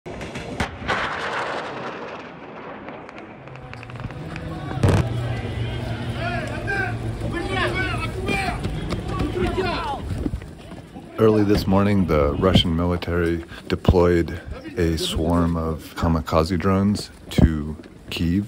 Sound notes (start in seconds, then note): 0.1 firing; 4.6 screaming and shouting in Ukrainian